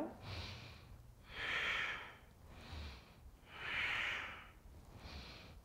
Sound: exhaling breaths

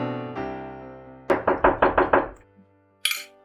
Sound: knock

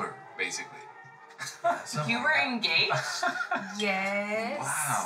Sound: Mike laughs

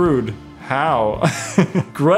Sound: laughs

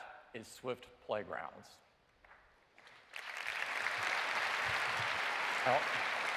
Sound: applause

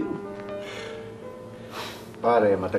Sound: sighs

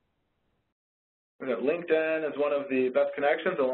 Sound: voiceover

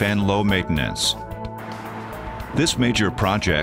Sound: traffic sound

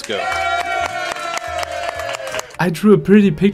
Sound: cheering

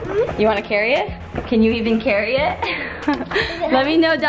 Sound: laughs

